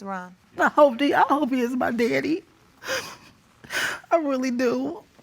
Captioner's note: sobbing